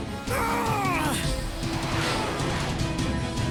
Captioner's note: grunt of exertion